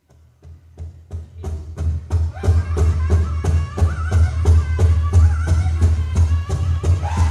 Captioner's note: drum beating; group chanting